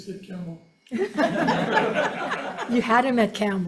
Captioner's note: committee members laughing